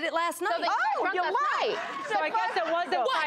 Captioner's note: audience laughs